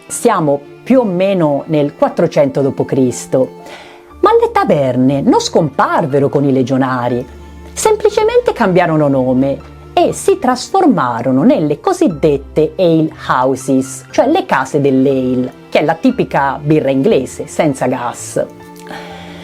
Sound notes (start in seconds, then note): 15.2 in Italian